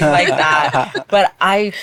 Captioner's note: laughing